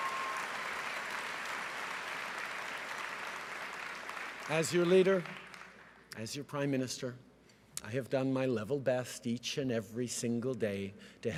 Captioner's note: cheering and applause